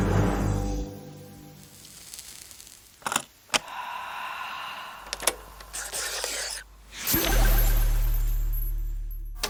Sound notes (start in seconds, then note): 1.6 inhaling and exhaling